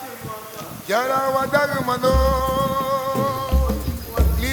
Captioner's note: men vocalizing